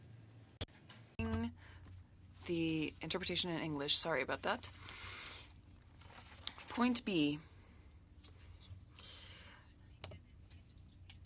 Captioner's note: speaking French